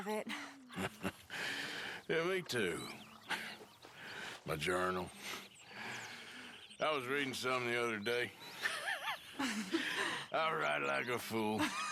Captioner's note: laughs in sympathy; they both laugh